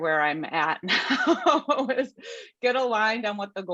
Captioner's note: laughs